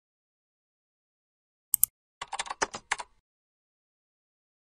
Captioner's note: Natyskannja klaviš